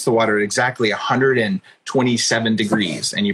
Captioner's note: laughs